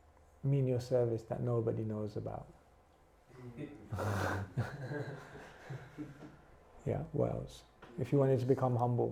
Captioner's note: chuckles